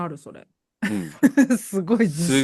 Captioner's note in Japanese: 笑い